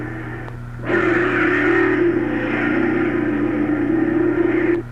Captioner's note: engines roaring